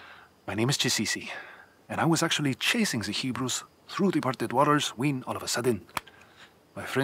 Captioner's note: clap